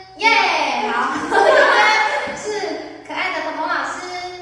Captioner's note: laughing